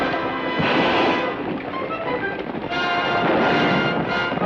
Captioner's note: gun fires